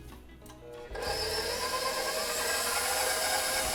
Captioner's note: mixer burrs